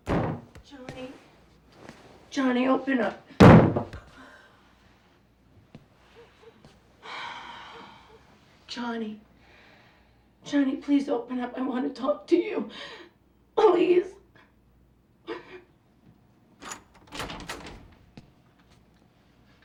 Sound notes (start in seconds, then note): 0.0 bang on door; 3.4 banging; 6.3 sighs; 11.3 voice cracking; 14.9 sobbing